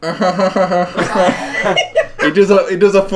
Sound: laughing

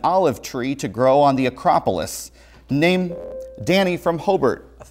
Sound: buzzer

